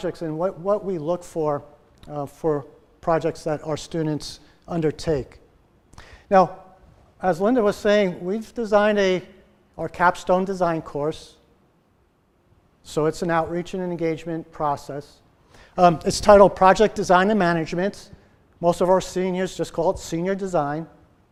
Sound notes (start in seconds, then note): none